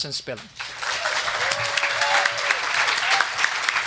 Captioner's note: group clapping